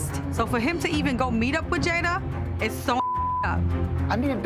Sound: beep

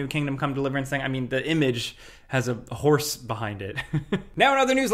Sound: chuckles

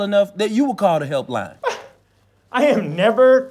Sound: high-pitched incredulous gasp

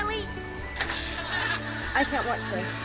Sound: electricity zaps; audience laughs

